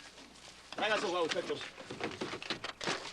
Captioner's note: gives order in Spanish